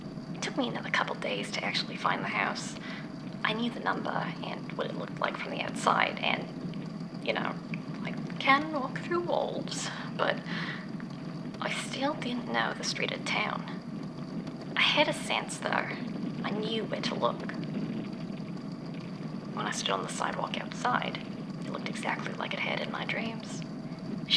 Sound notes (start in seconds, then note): none